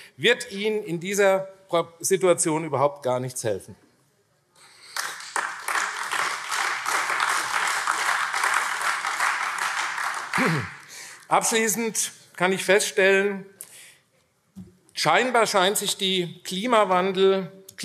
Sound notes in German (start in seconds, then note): 4.8 Beifall AfD